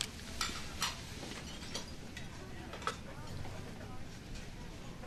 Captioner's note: restaurant dishes clang